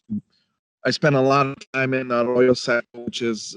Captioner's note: speech distorting